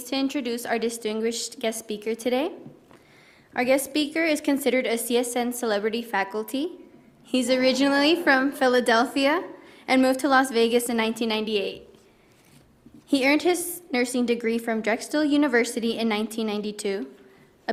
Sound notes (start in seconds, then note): none